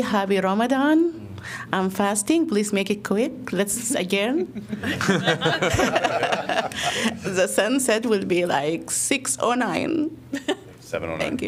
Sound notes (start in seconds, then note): 4.3 laughter